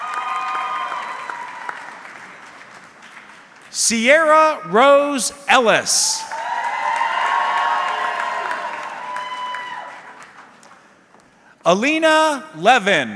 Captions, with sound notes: (audience cheering) Sierra Rose Ellis. (audience cheering) Alina Levin.